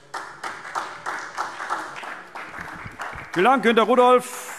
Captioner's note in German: Beifall SPD